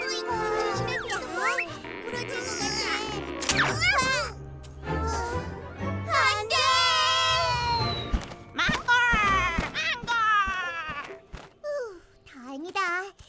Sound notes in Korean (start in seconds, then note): 3.4 툭 부러지는 소리